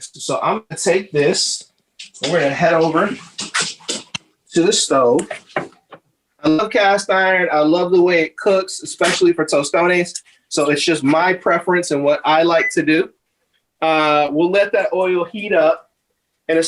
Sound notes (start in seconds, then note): none